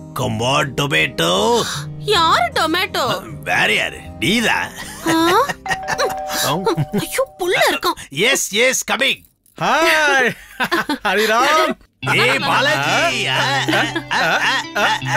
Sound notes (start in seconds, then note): 4.8 laughs; 5.7 door bell rings